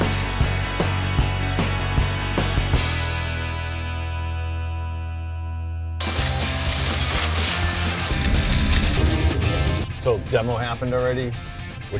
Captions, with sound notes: (rock music continues) (bulldozer demolishing house) - So demo happened already,